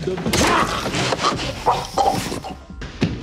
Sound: gurgling

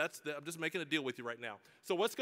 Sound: none

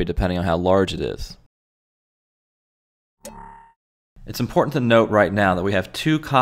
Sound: “Ding” sound effect

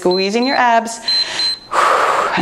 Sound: timer beeps

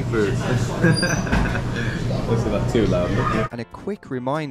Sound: laughs

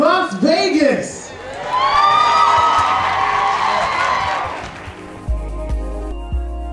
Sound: cheers and applause

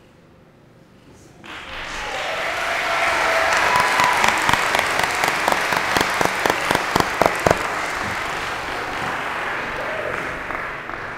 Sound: applause

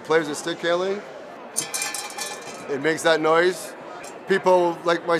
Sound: rattling

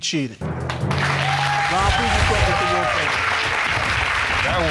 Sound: audience cheering

